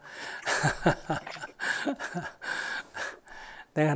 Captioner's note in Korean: 스님 웃음